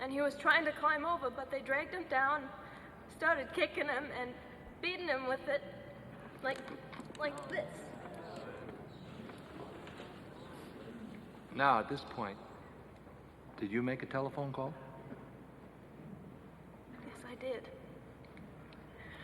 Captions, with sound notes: and he was trying to climb over, but they dragged him down, started kickin' him and beatin' him with it like this. (people chattering) - Now at this point, did you make a telephone call? - Yes, I did.